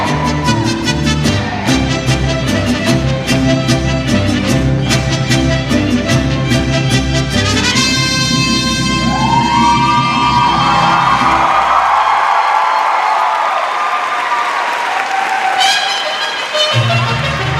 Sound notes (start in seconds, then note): 11.5 cheers and applause